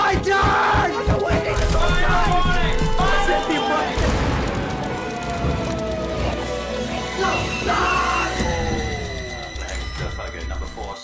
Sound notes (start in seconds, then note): 0.1 banging; 3.9 explosion booming; 7.6 man yelling